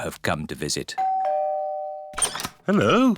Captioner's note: doorbell rings